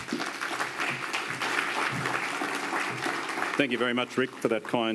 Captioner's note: audience applauding